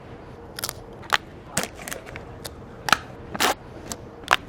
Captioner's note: crunching